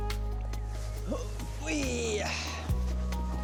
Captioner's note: bright music; grunting